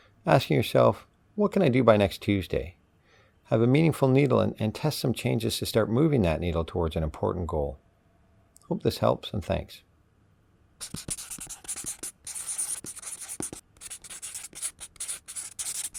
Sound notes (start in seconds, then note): 10.8 marker scratching